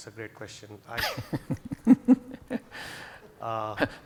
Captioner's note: laughs